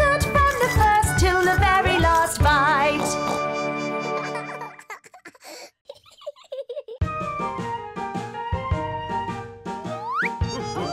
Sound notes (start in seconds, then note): 3.1 laughs